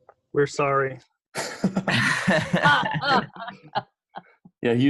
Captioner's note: hearty laughter